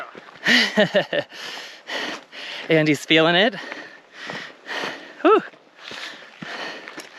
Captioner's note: giggles again